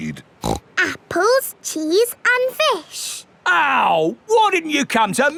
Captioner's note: snorts